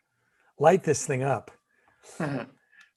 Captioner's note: chuckling